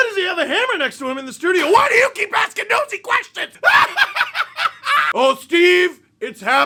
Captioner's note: laughter